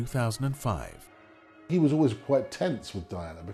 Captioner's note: voiceover